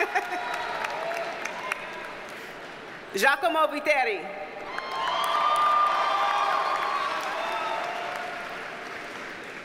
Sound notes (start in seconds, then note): 0.0 chuckles; 4.6 audience cheers and applauds